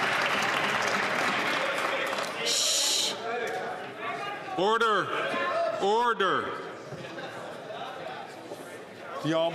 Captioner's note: applause